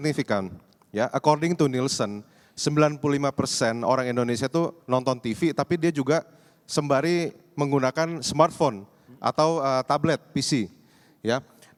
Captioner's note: non-english speech